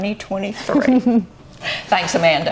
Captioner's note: giggling